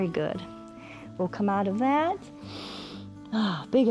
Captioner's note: exhales; inhales